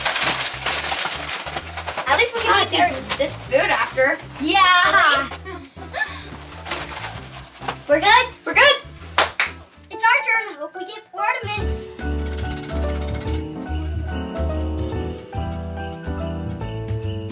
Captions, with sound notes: At least we can eat this food after. Yeah. [Laughing] We're good? We're good. It's our turn, hope we get ornaments. [Wheel spinning]